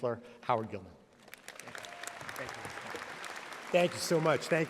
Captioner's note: audience applauding